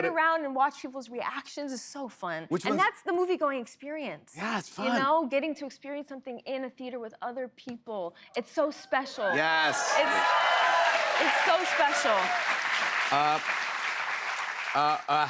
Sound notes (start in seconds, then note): 9.3 cheers and applause